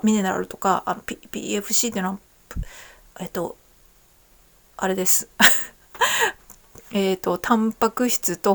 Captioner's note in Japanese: 笑い